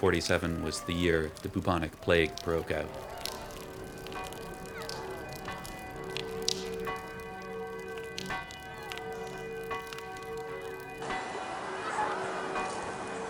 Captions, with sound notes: that 1347 was the year the Bubonic Plague broke out? [Bells clang] [Clanging continues]